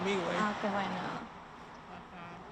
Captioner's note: speaking in Spanish